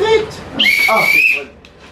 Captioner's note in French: Coup de sifflet